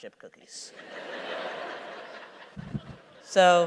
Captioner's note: laughter